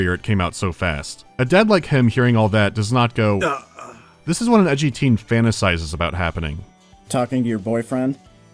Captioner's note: gasp